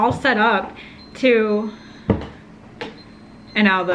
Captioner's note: beeping